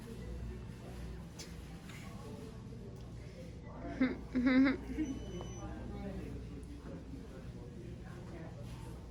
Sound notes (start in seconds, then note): 4.0 laughs